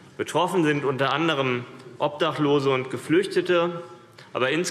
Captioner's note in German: none